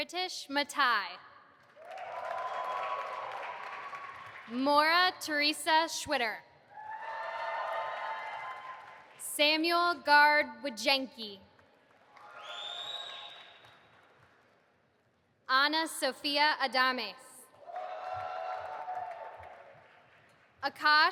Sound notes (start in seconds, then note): 1.7 audience applauding and cheering; 6.8 audience applauding and cheering; 12.0 audience applauding and cheering; 17.6 audience applauding